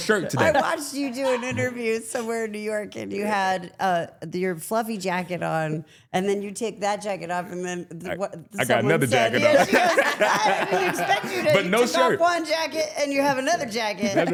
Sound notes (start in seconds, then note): 9.0 laughs